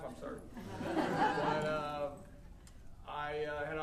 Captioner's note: audience laughing